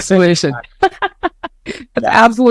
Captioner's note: laughs